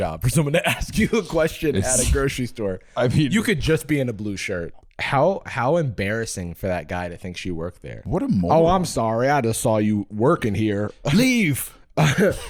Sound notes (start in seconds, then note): 8.1 southern accent